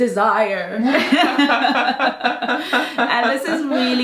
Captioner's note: both laughing